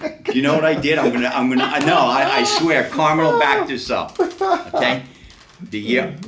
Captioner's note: laughs